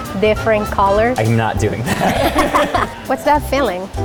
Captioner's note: both laugh